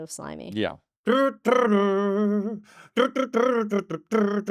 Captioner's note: humming